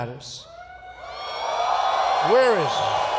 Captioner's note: applause